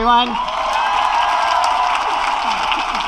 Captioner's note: applause